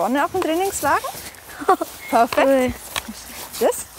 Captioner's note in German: lacht